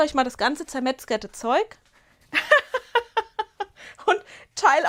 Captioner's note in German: Gelächter